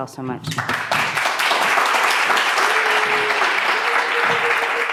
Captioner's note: audience applauding